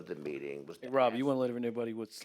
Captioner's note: voiceover